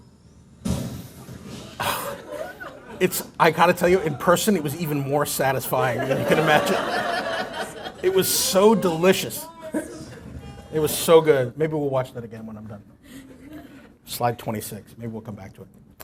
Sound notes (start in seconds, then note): 9.6 laughter